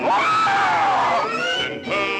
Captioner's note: dragon screeches